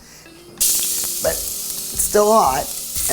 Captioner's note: pot sizzling